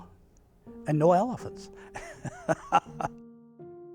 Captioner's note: laughs